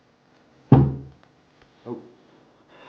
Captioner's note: head thuds